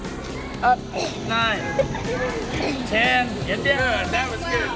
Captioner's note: they grunt